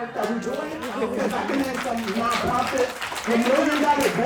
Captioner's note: audience applauding